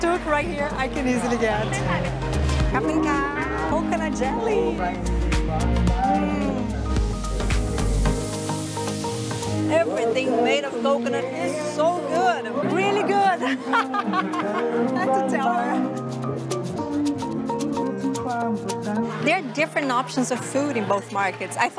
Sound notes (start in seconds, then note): 13.2 laughs